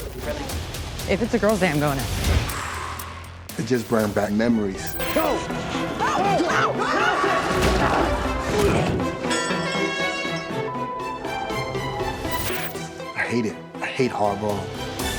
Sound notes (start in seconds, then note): 5.7 people shouting; 9.0 horn blares